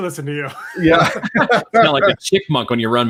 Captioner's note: all laughing